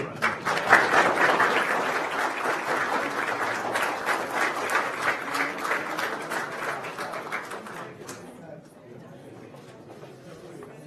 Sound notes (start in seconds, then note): 0.0 applause